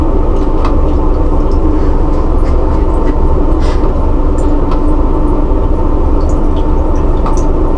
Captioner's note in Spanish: agua drenando